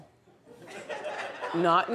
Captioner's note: audience laughs